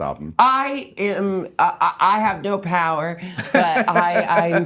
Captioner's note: laughing